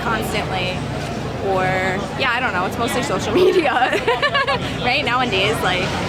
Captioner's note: laughs